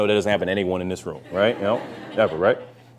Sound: laughter

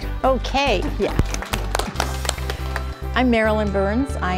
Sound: applause

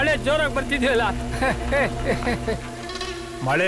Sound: laugh

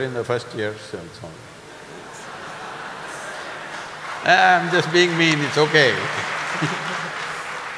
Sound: laughter/Applause

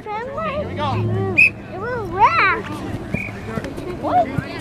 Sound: whistle blows

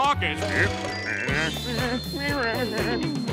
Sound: humming

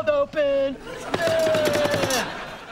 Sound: groaning

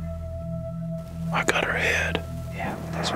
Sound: whispering

